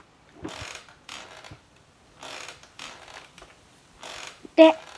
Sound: sound of rocking chair

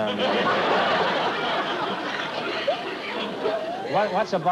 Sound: laughter

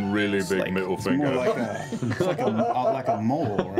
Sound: laughter

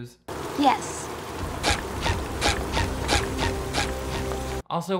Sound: shoes squeaking

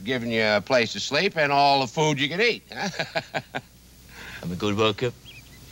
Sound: chuckles

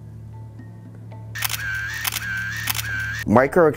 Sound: camera clicking

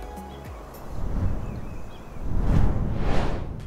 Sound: birds chirping

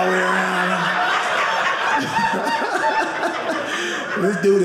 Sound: audience laughing

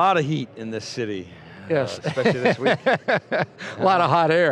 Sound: laughter

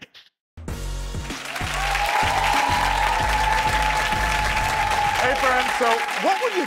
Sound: audience cheering and applauding

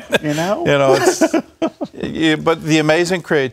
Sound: laughter

